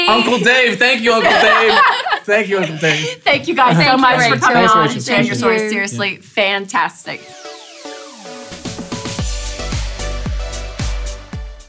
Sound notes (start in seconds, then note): 1.1 laughter; 7.1 upbeat music